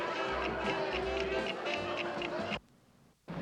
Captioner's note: ticking